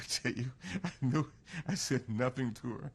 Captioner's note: laughs